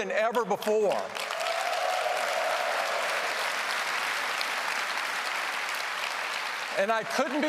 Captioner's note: applause